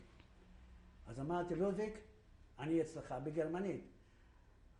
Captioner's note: in German